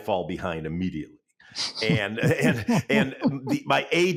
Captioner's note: chuckling; chuckles